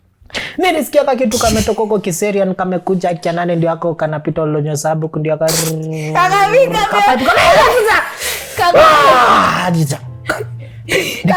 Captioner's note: reciting